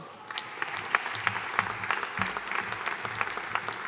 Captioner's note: audience applauding